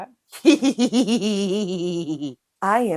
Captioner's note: cackles